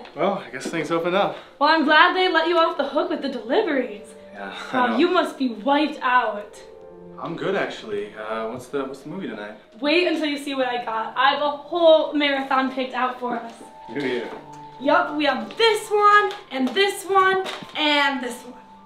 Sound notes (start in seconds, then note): none